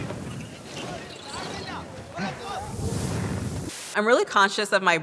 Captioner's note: man speaking in a foreign language